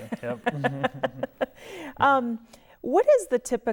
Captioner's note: laughing